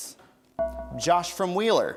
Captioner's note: bell rings